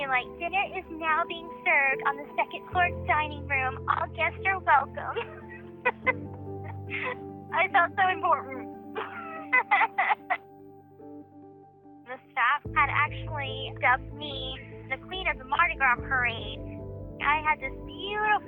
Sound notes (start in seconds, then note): 5.8 laughs; 10.6 Gypsy laughing